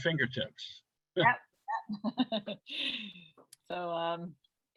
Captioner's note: laughs